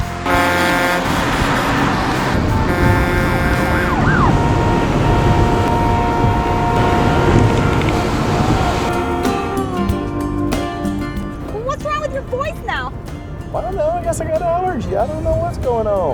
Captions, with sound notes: [truck horn blows] [truck horn blows] [police siren blaring] [car horns honking] So what's wrong with your voice now? I don't know. I guess I got allergy. I don't know what's going on.